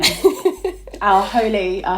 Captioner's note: laughing